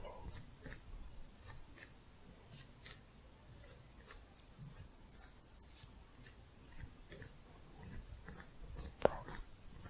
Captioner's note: slow scissors sounds